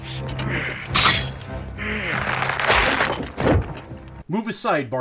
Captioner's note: rubbery stretching sound